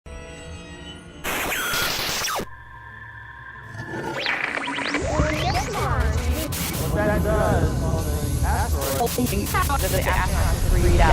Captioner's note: sound Effects